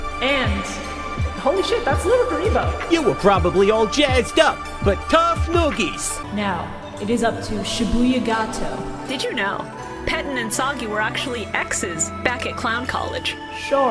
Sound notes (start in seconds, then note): 2.9 Joey voice